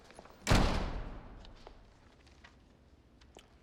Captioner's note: door opening; thud echoes